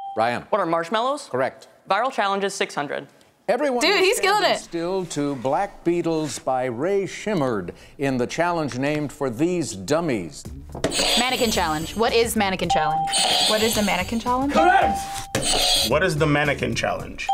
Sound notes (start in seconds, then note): 10.9 buzzer rings; 12.6 bell rings; 15.2 buzzer rings